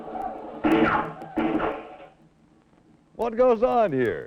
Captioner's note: crowd shouting; gun firing